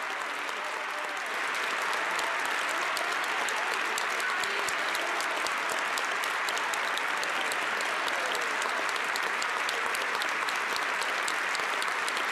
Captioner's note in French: applaudissements